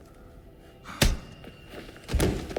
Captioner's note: clunk; thud